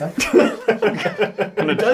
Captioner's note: all laugh